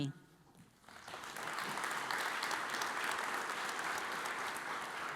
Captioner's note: audience applauds